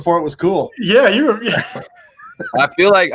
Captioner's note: laughing